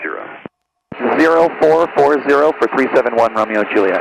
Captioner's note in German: über Flugsicherungsfrequenz